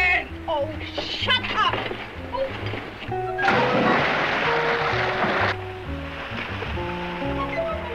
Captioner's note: water splashing